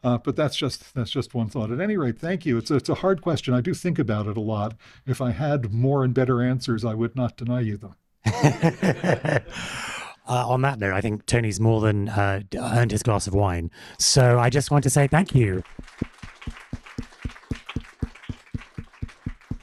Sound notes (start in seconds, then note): 8.2 laughter; 15.0 applause